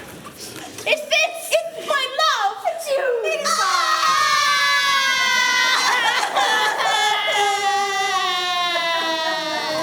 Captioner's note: crying